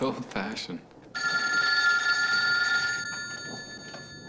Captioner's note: telephone rings